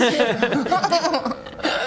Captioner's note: tempted giggle